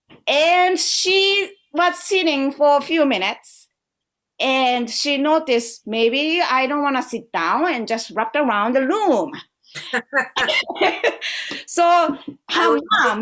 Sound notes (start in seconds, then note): 10.3 laughter